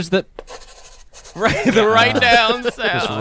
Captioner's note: pencil scratches